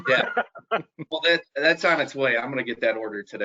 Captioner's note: laughing